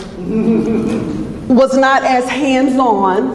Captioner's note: audience laughs